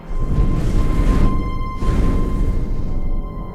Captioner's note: fire roaring